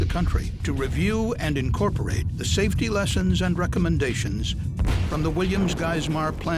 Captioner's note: sound of explosion